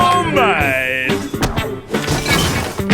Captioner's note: objects clatter